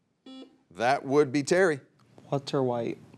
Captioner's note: buzzer beeps